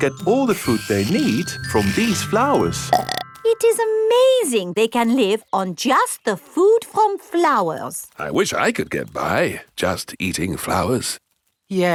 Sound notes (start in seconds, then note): 2.9 burps